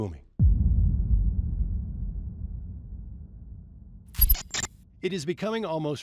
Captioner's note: boom